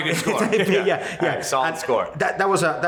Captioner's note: both laughing